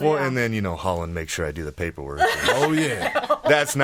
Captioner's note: laughing